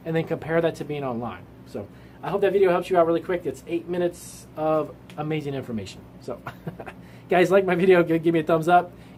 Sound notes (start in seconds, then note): 6.4 laughs